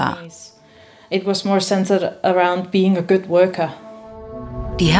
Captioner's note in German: Sie spricht auf Englisch fertig